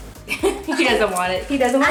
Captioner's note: laughs